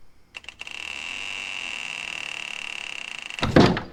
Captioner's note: door creaking